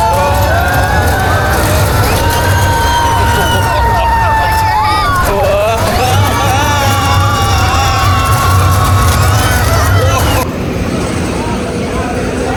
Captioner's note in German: schreien